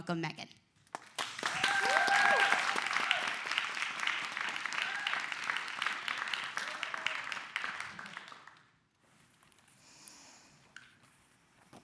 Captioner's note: clapping